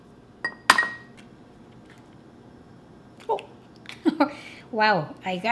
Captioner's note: crack